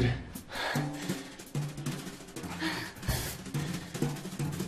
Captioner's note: panting